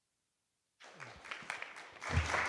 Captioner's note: applause